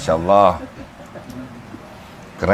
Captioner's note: laughs